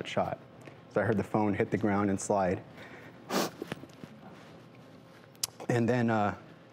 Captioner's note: sniffles